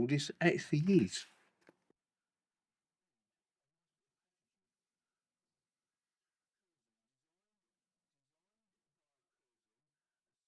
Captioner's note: silence